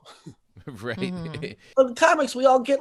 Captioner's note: chuckling